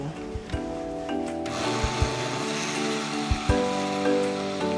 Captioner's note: blender buzzes